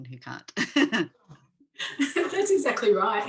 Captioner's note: chuckling